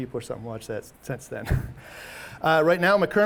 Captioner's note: chuckles